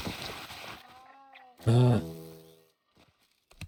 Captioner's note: annoyed groan